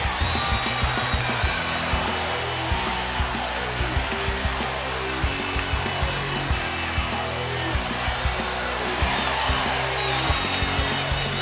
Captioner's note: crowd cheering